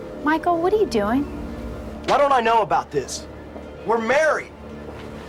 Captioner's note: shouting